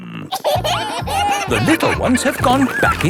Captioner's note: kids giggling